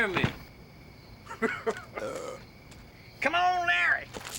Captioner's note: laughs